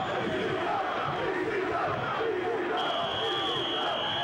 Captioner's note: crowd chanting; whistle blowing